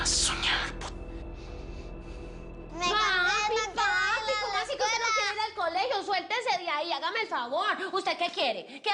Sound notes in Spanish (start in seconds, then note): 3.3 Hablan al unísono